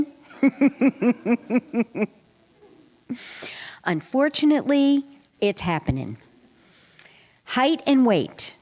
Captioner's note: laughter